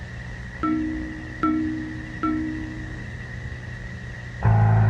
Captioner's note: computer chiming; game buzzing